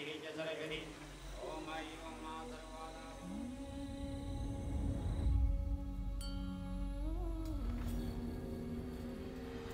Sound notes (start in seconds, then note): 6.2 bells chiming